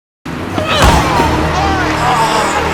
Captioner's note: cheers